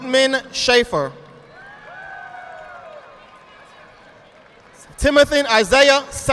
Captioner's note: audience applauding